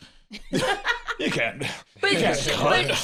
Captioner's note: laughs